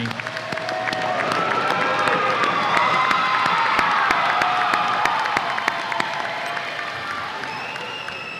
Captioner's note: audience applause and cheers